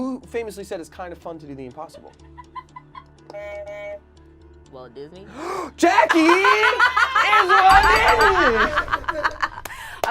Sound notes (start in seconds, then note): 3.3 buzzer buzzes; 8.6 group laughs